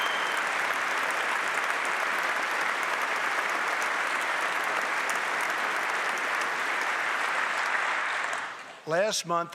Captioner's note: applause